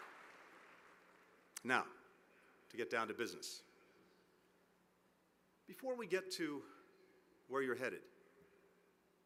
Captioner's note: applause